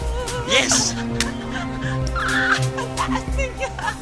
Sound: David's mom squealing

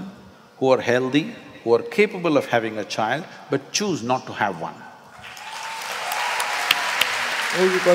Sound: applause

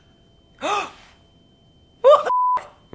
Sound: beep

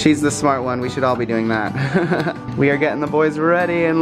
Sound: laughs

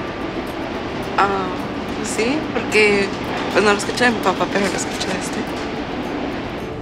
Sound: speaking Spanish

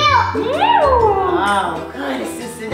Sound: cat sounds

